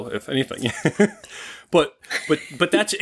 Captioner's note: laughter